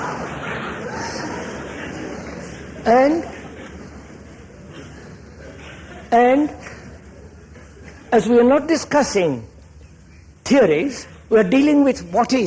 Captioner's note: laughter